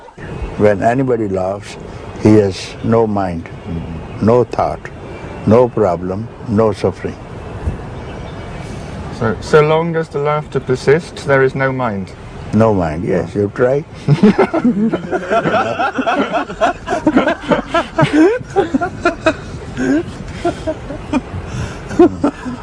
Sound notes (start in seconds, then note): 16.6 laughter